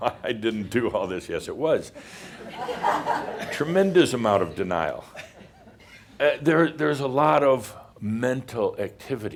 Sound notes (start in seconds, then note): 2.0 some laughter